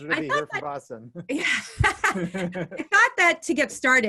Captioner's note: laughing